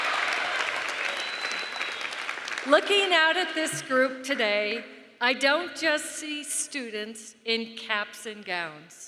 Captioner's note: cheering and applause